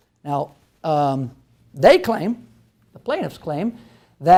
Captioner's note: none